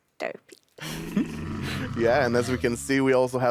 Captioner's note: camel groaning